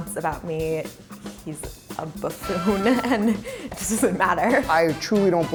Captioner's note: laughs